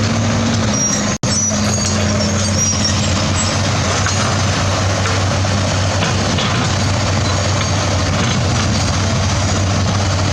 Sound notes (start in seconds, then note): 0.0 excavator Engine Sound